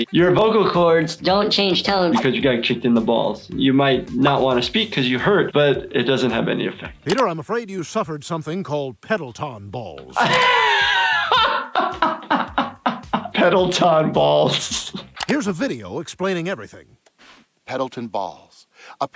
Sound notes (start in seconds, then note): 10.1 laughs